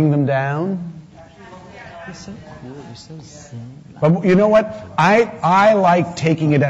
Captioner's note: voices offstage